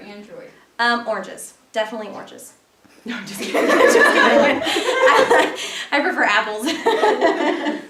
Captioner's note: laughter